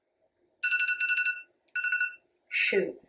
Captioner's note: alarm ringing